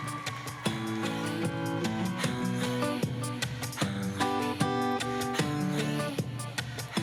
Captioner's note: applause